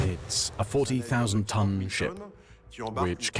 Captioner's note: voiceover